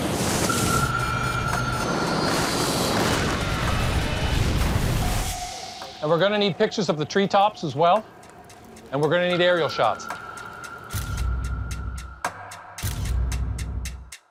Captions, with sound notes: (alarm beeping) (plane crashes) - And we're gonna need pictures of the treetops as well and we're gonna need aerial shots.